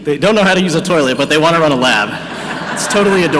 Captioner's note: audience laughing